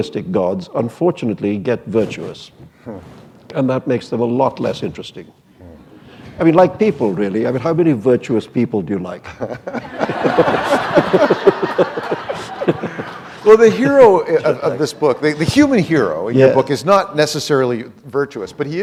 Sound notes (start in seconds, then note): 10.8 laughter